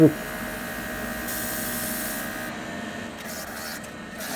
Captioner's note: paint spray sound